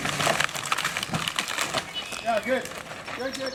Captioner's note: tree crackling